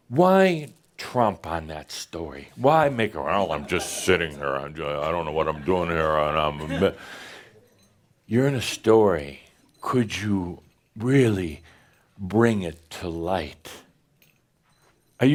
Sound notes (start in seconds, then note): 7.9 in dull voice